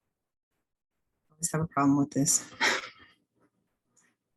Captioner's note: laughs